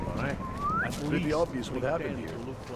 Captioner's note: whistle